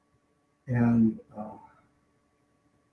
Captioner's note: deep sigh